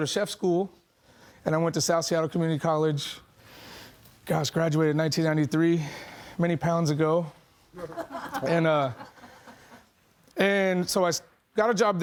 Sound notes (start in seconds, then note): 7.8 audience laughing